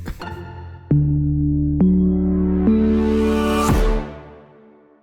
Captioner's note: stomps